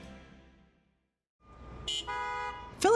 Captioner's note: cars honk